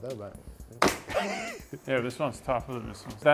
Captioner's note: laughs